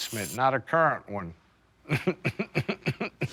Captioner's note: chuckles